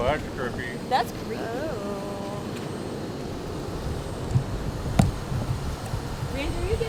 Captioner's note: Zumbido del aire acondicionado